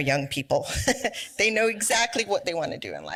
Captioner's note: laughs